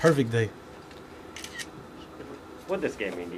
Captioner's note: cameras clicking